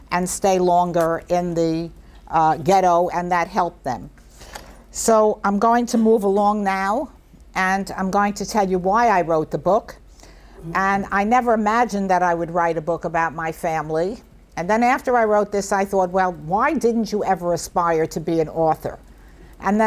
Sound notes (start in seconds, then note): none